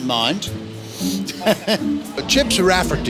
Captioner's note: laughs loudly